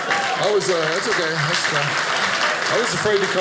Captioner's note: audience applauding